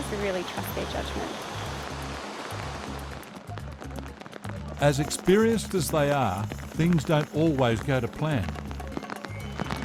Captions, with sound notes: We really trust their judgement. (RAIN FALLS) As experienced as they are, things don’t always go to plan.